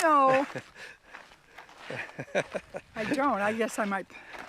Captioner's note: laughing